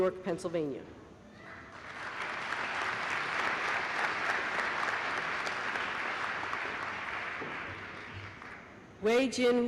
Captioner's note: applause